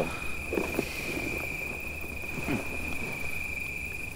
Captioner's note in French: bruit d'insectes nocturnes